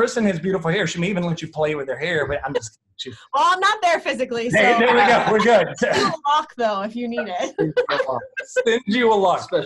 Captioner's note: laughter